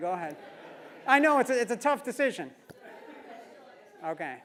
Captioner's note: laugh; laugh